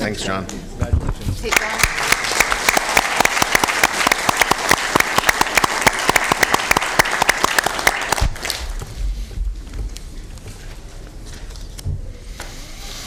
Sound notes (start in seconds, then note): 8.5 applause